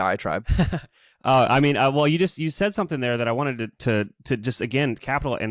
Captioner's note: laughs